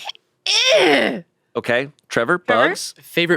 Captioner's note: groans